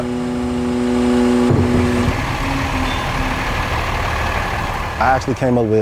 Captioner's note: truck humming